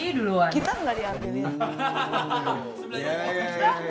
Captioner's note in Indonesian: Ketawa